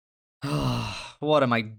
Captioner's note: sigh